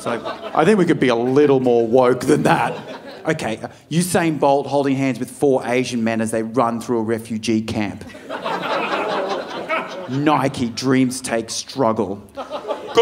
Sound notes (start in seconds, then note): 8.0 audience laughing